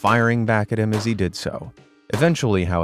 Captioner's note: gun firing